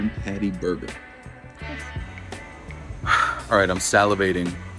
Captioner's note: sighs